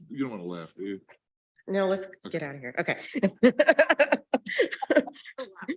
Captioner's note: laughs